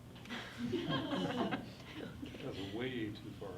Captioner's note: everyone laughs